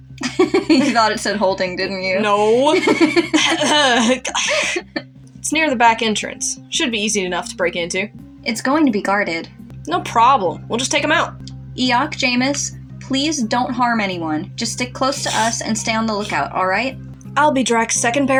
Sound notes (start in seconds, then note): 2.4 laugh; 3.0 clears Throat